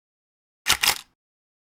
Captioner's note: camera click